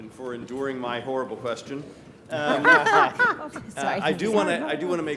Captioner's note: panelists laugh